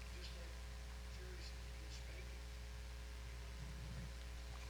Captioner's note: man speaking off mic